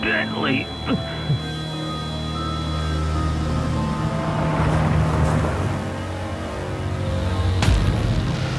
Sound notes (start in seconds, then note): 3.5 vehicles slow to a stop